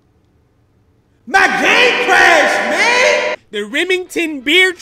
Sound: voice with reverb

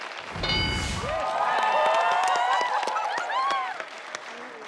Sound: audience cheering

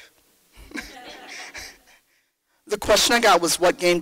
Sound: laughter

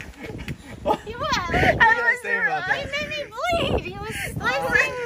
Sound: laughing

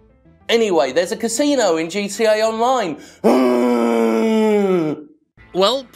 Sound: groans

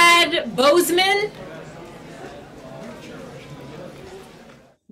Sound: crowd chattering

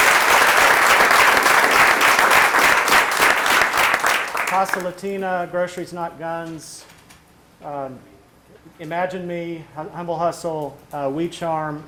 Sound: applause

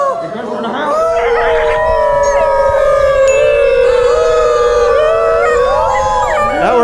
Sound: lots of howling

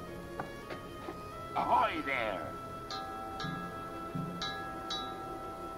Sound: bell ringing

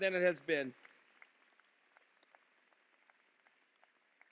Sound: applause

